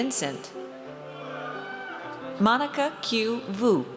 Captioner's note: audience cheers